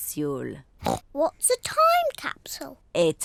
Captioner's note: oinks